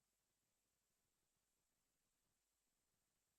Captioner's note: none